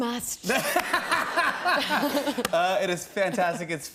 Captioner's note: laughter